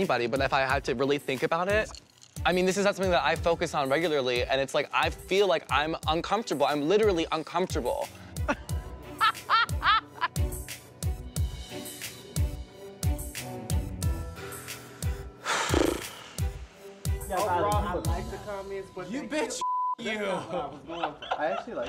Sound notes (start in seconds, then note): 8.6 laughs; 15.4 sighs heavily